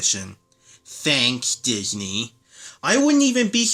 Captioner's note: sarcastically